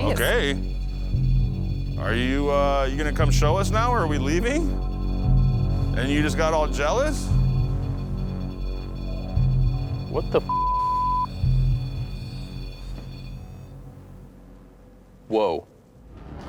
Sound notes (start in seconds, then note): 7.1 beeping; 11.1 beeping